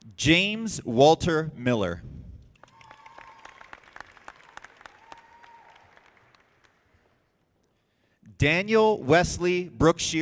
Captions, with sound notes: James Walter Miller. (audience applauding) Daniel Wesley Brookshear II.